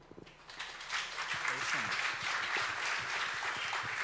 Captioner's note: audience applauds